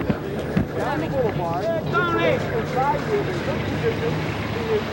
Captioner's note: people chattering